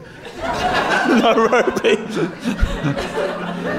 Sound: giggling

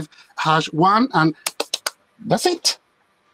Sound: claps

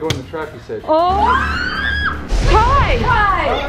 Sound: loud shrieking

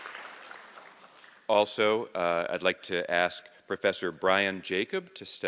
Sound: cheers an applause

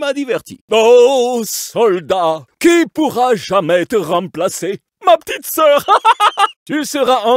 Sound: laughs

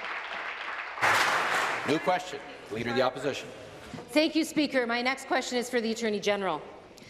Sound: applause

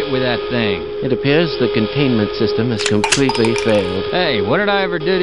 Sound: loads gun

